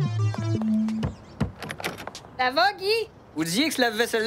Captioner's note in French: Toc! Toc! Toc!